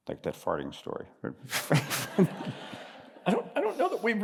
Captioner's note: laughter